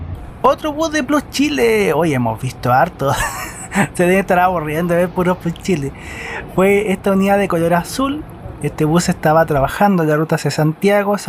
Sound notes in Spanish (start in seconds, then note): 3.1 risas